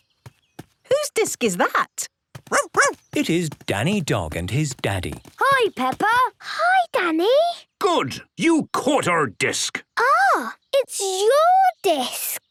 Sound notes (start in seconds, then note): 2.4 barking